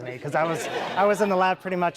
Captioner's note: laughing